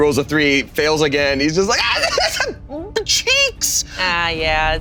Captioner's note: hysterical laughter